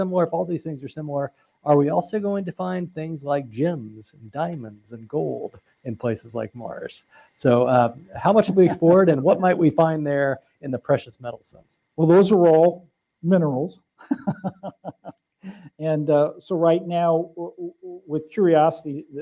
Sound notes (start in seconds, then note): 14.0 laughter